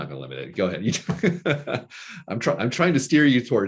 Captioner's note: laughing